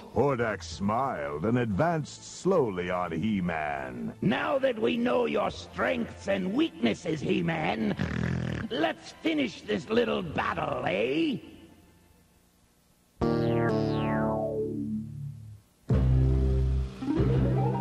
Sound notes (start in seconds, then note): 7.9 snort